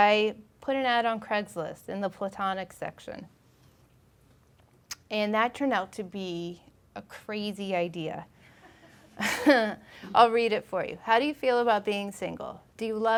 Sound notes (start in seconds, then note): 9.0 laughing